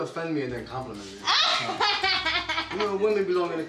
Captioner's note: laughing